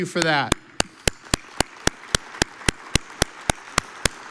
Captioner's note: audience applauds